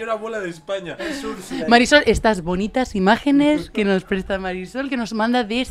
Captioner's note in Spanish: voz de reportera